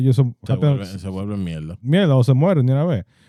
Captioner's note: speaking In Foreign Language